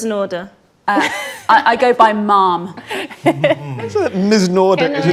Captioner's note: group laughs